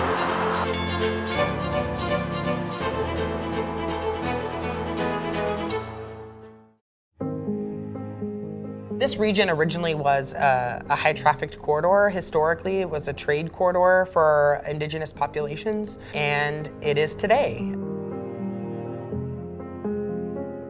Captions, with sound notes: (train crossing bells) (classical music) This region originally was a high trafficked corridor. Historically it was a trade corridor for indigenous populations and it is today. (classical music)